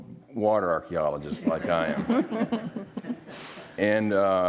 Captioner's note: all laughing